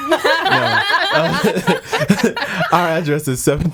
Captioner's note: laughing